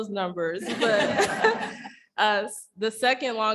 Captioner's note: chuckling